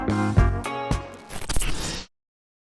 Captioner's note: static buzzing